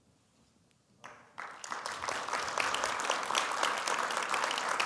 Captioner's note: audience applauding